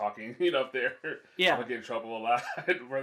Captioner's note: laughs